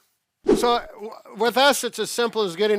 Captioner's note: air swooshing